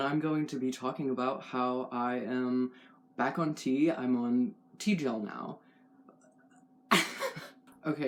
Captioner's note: laugh